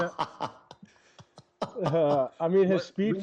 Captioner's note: laughter